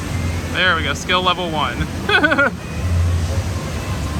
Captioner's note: laughs